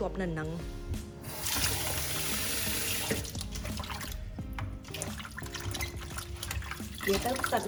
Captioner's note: cleaning sound